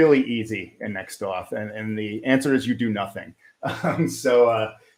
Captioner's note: chuckles